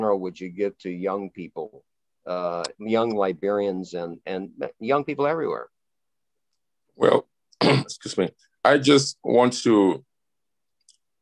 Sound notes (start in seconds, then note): 7.6 clears throat